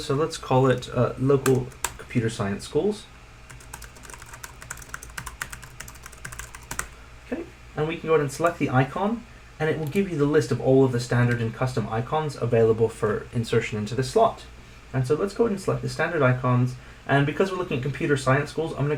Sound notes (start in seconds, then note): 3.5 keyboard clacking